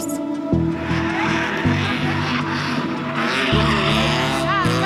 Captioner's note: engines rev